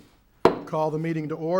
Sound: gavel tapping

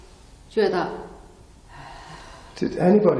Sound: exhales

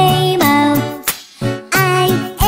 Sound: clap

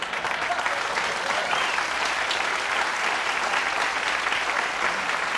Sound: audience laughter and applause

